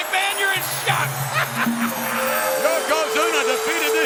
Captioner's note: laughs